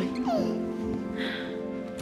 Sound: baby coos

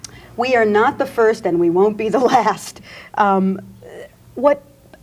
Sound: laughs

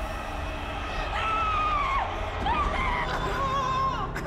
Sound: Nikki screaming

